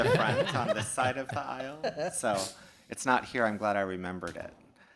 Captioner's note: laughter